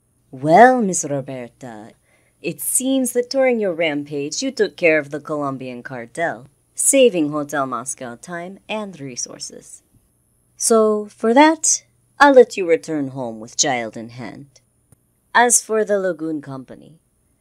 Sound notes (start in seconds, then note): none